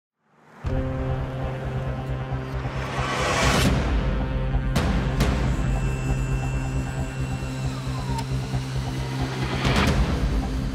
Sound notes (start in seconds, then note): 0.7 dramatic music; 6.2 door whirring